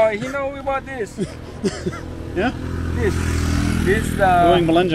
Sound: laughing

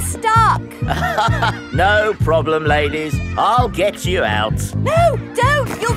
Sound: chuckles

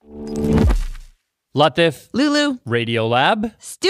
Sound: none

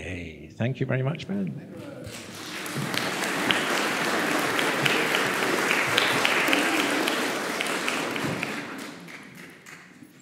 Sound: applause

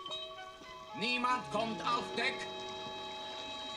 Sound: in German

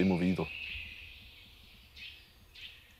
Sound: birds chirping

